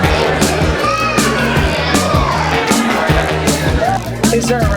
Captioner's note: overlapping chatter